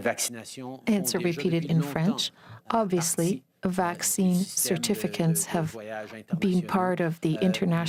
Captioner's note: speaking french